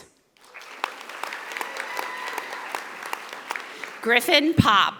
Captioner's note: audience applauding